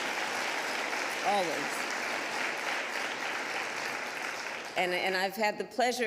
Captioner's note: applause